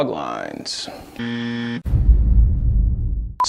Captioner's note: buzzer